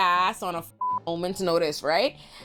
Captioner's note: beep